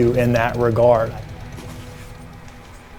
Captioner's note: motorcycle engine roaring; ominous music